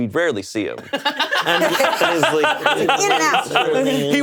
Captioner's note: all laughing